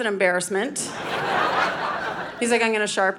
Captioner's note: audience laughing